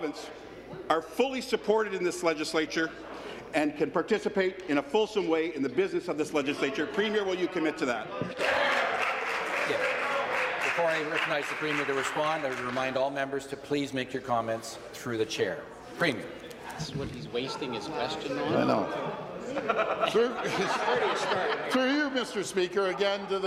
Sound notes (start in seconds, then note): 13.8 some applause